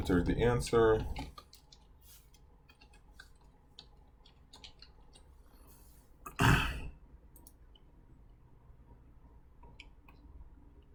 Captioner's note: typing